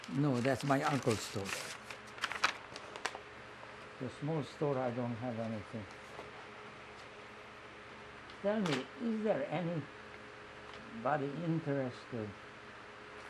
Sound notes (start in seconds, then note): none